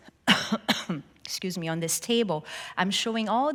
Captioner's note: coughs